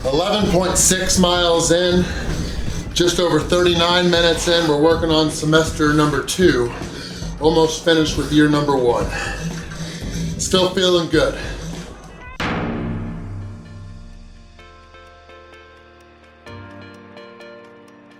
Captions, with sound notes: 11.6 miles in, just over 39 minutes in. We're working on semester number two, almost finished with year number one. Still feeling good. (gong pounds) (light music)